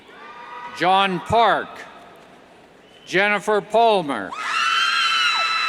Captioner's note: cheers; cheers